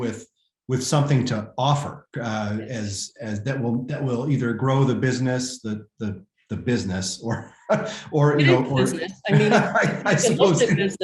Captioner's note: laughter